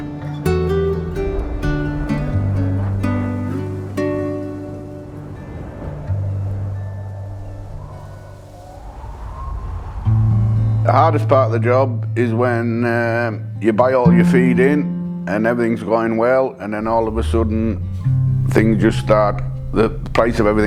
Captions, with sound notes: (peaceful music) (wind whistles) The hardest part of the job is when you buy all your feed in and everything's going well, and then all of a sudden things just start, the price of everything,